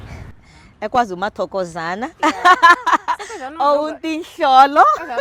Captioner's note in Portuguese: riso